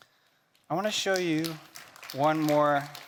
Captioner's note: attendees clapping